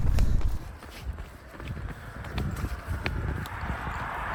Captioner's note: footsteps